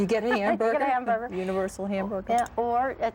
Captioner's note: chuckles